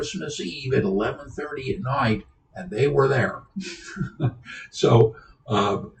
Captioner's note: laughs